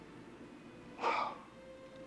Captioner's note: exhales sharply